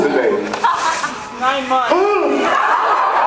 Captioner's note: laughs; gasps